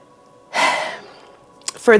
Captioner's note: sighs